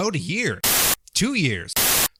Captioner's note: static